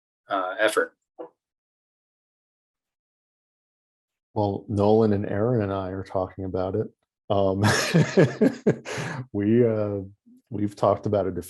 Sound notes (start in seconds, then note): 7.5 laughs